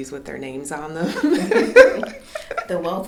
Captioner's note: laughing